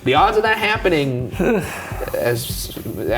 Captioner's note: sighing